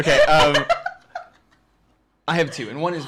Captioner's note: laughter